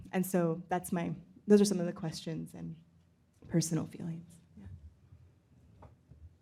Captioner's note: none